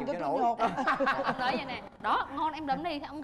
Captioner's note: laughing